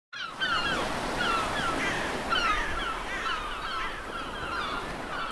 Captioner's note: seagulls